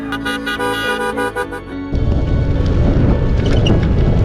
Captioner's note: cars honking